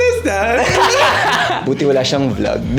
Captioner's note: laughs